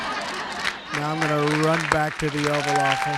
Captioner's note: laughter